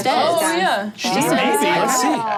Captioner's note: group chattering